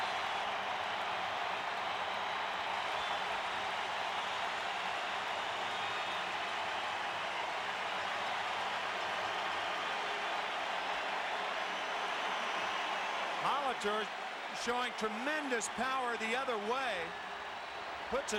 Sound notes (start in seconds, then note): 3.3 applause; 4.3 cheering and Applause